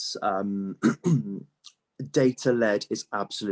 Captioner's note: clears throat